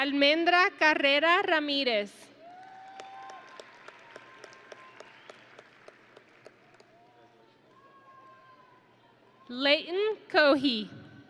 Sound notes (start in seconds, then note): 2.4 audience and graduates cheering